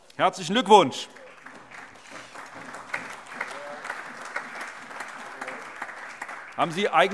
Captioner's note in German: Allgemeiner Beifall